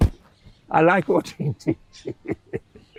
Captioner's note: laughing